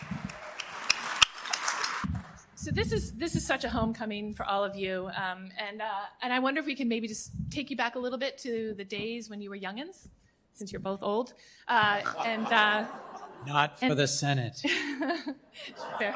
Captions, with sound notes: So this is such a homecoming for all of you, and I wonder if we can maybe just take you back a little bit to the days when you were youngins, since you're both old. [LAUGHTER] Not for the Senate. That's fair.